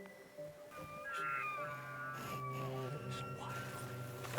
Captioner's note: elk bugling